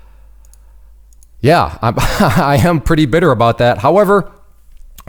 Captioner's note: chuckles